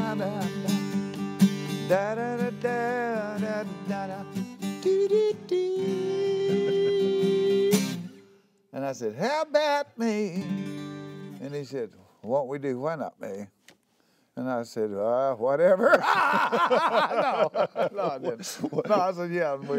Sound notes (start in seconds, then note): 15.6 laughter